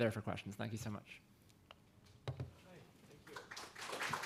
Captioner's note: applause